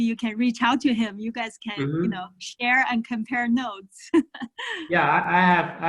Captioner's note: laughing